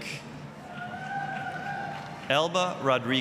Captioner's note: applause, cheering